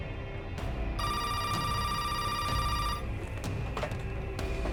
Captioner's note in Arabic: رنين الهاتف